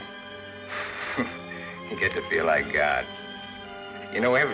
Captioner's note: laughs